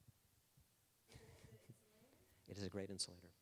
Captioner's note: laughing